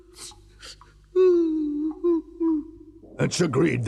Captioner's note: sobbing continues